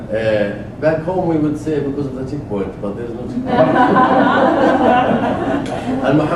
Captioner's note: laugh